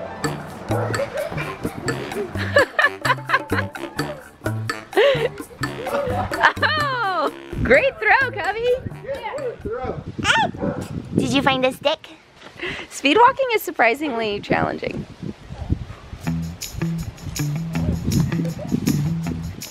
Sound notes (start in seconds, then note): 0.0 quirky horn music; 0.8 laughing; 10.2 babbles